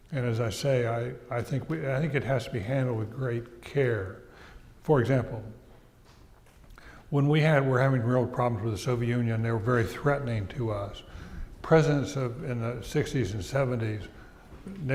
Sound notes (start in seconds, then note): none